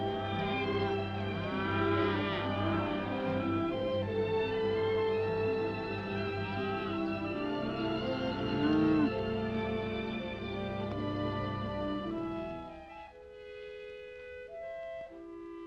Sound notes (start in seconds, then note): 0.0 cows mooing; 0.2 gentle upbeat music; 1.4 cows mooing; 4.8 gentle upbeat music; 8.3 cows mooing; 10.3 gentle upbeat music